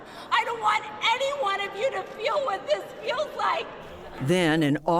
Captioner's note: chanting